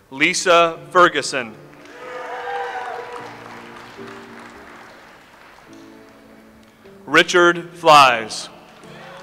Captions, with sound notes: Lisa Ferguson. (audience applauds) Richard Flies.